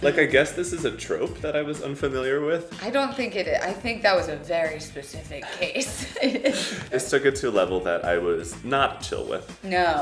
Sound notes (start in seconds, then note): 5.4 laughing